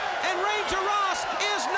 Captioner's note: crowd cheering